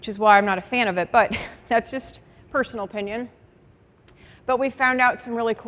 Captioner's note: chuckles